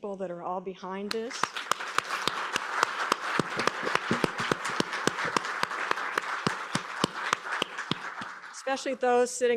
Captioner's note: applause